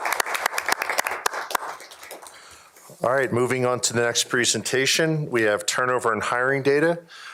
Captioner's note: applause